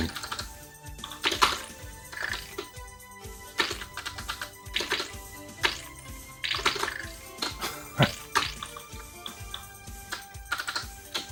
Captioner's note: keyboard Clicking, Game Shooting Sounds